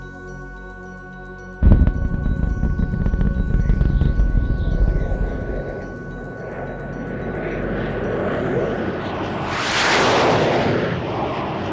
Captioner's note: rocket blasting off noises can be heard